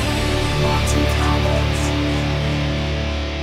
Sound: synthesised voice

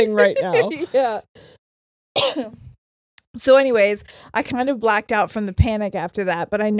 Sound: coughs

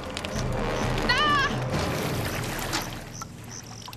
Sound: screaming

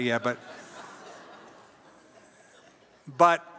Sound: audience laughs

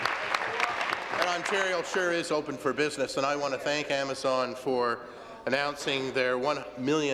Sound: applause

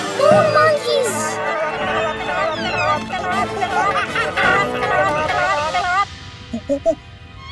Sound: chattering

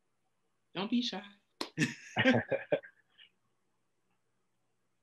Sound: both laughing

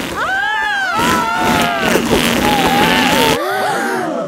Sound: both screaming; crowd gasps

